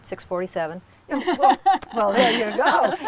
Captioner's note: laughter